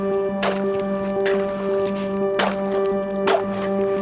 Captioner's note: ice breaking